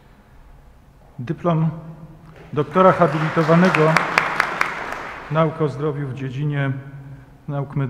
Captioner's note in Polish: oklaski